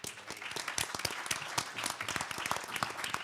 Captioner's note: handclaps